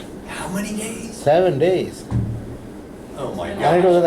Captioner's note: voiceover